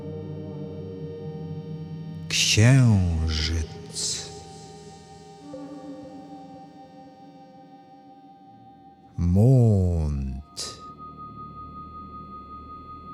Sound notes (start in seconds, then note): 10.4 german